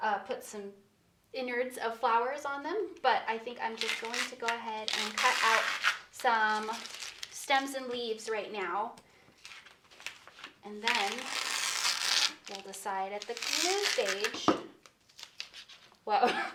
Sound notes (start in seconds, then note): 9.2 masking tape rustling